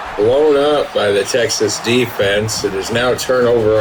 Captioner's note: crowd Noises